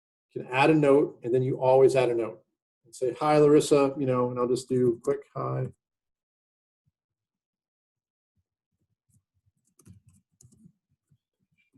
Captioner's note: typing